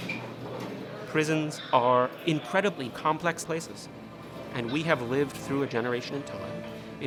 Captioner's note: squeak and clank of gate